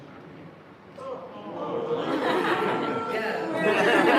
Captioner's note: groaning, boos; laughter